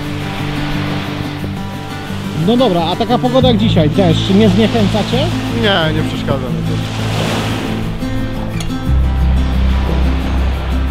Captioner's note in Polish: deszcz